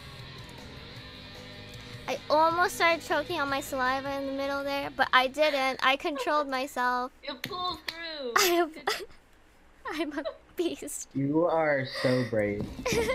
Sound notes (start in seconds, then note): 2.1 normal voice; 7.4 clap; 8.3 laughing; 8.3 laughs